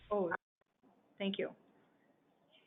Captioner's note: silence